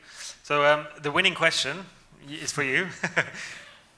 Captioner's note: laughs